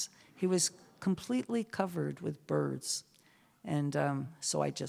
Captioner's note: none